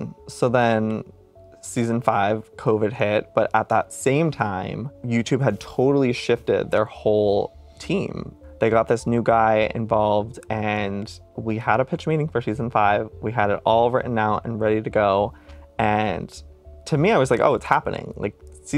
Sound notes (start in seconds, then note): none